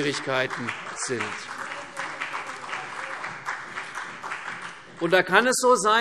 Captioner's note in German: Beifall CDU und vereinzelt BÜNDNIS 90/DIE GRÜNEN